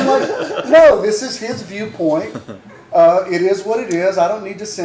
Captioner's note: laughter